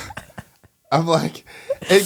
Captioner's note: laughing